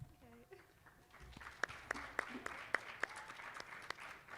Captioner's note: applause